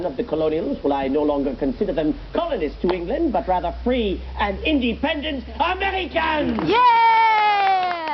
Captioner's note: audience applauds